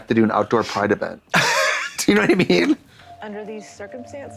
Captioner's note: puffs